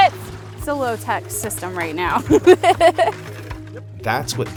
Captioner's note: laughs